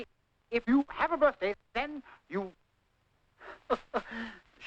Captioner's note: chuckling